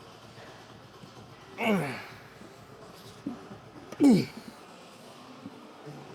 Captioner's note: grunting